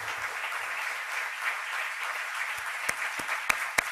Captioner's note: applause